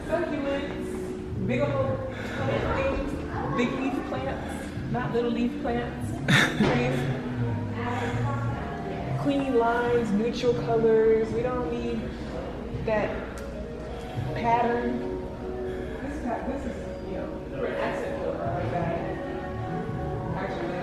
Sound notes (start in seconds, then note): 6.3 laughs